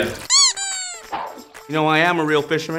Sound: squeak

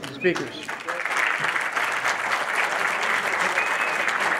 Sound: audience applauding

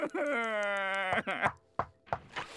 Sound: knocking

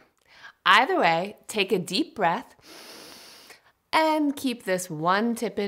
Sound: inhaling

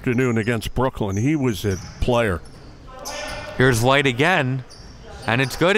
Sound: players yelling

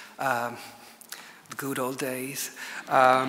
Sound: chuckles; audience laughs

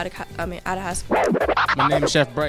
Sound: record scratch

